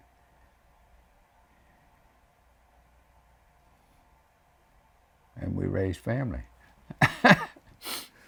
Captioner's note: laughs